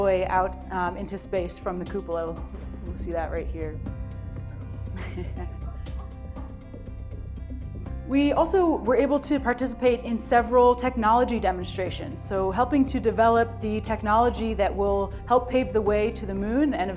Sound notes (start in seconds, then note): 4.9 laughs